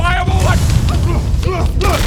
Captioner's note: whooosh!